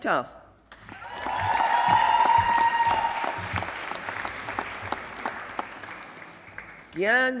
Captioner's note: applause